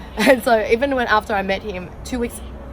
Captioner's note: laughs